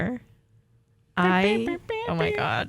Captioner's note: giggles; humming